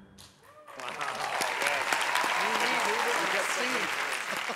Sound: cheers and applause; scattered laughter

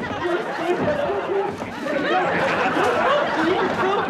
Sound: laughter

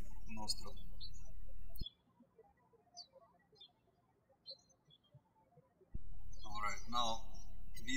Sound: birds chirping

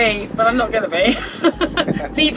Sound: both laugh

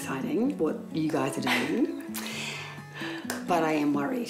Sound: chuckles

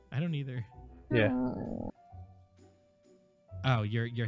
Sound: Tina groans

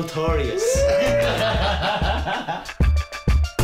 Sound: cheering, laughing

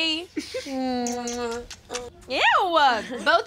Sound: friends smooching

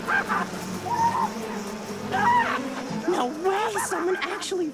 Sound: Corbin screams

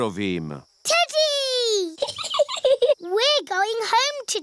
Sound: giggles

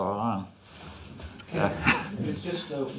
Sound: laughs

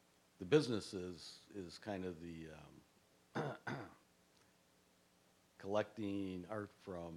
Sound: coughing

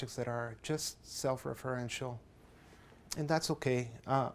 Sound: none

